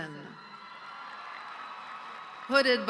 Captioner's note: audience cheering